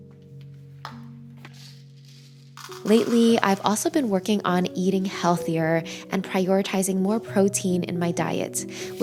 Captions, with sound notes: (lid thudding) (barley rustling) Lately, I've also been working on eating healthier and prioritizing more protein in my diet,